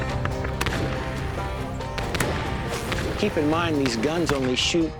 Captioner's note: gunshots